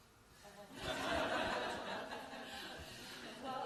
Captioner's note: laughter